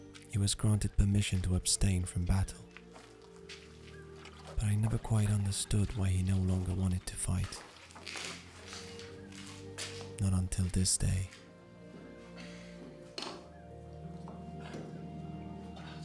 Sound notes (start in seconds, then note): none